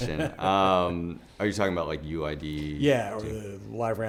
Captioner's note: laugh